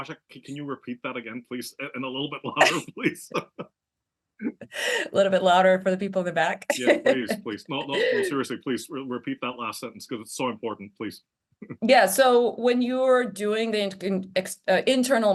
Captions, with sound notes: Can you repeat that again, please? And a little bit louder please. A little bit louder for the people in the back. (laugh) Please, please repeat that last sentence. Because it's so Yeah. So when you're doing the internal marketing or internal important, please. marketing campaign, it is difficult and as time consuming, but it is important, your paycheck depends on it. Your